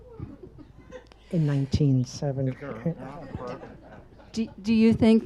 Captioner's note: audience laughs